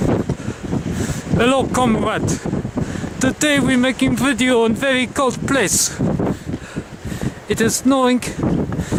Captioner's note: bad Russian accent